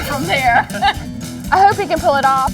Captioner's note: laughs